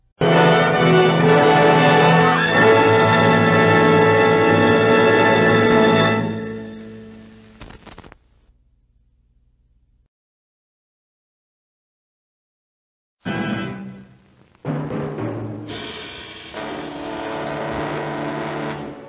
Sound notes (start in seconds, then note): 0.1 old-fashioned music playing; 9.3 silence